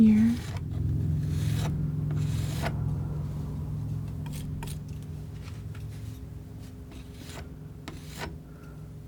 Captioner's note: scratching